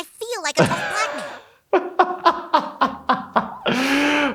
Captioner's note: laughs